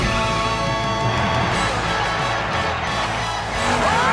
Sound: crowd cheering; cheering

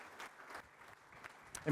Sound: applause

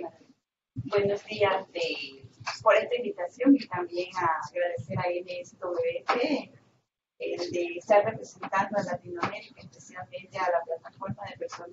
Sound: Spanish

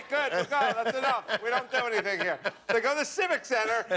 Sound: laughter

